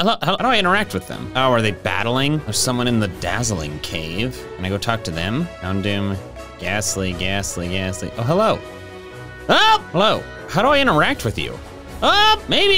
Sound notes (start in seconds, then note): 9.4 exclaims